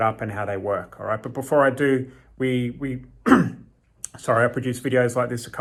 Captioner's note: clears throat